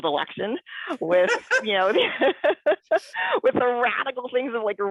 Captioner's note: laughs